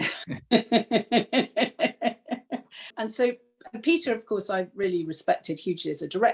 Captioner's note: laughter